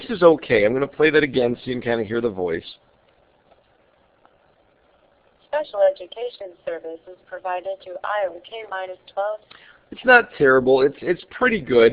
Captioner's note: computer reading